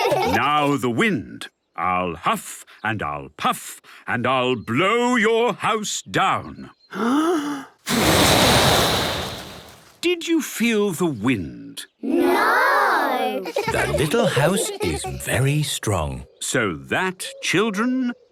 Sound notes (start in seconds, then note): 0.0 laughter; 6.9 inhaling deeply; 7.8 blowing; 13.2 laughter